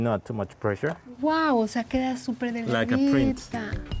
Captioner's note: speaking Spanish